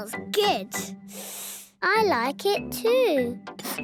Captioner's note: sniffs; sniffing